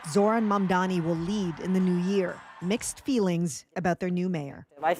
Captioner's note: cheers and Applause